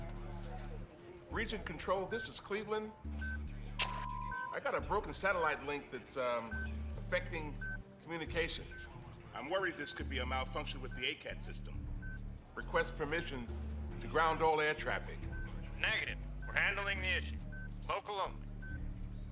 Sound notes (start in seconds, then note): 3.8 beeps